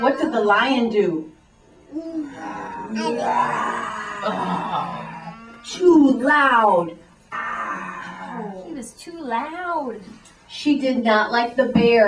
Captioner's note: makes roaring sound